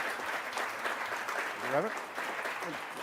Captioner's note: applause